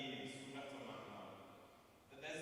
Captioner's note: non-english speech